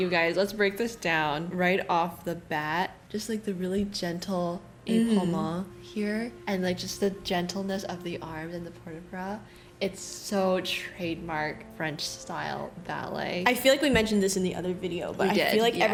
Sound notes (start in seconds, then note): none